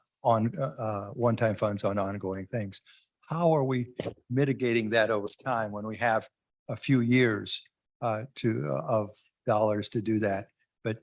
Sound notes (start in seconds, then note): none